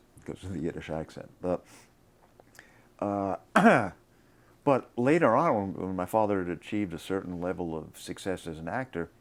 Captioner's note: coughs